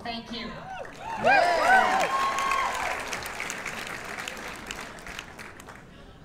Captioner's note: cheers and applause